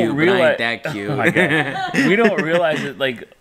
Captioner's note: laughs